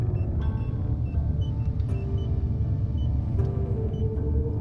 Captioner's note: machines beeping